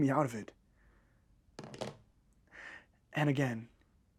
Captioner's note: phone drops with a thud